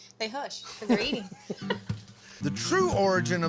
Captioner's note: laughter